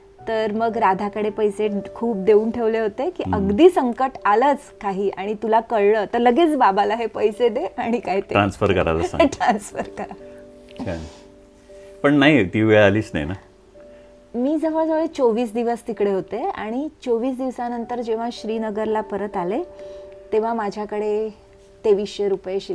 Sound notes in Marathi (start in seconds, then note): 9.0 हास्य